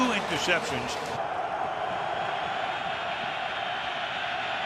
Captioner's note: cheering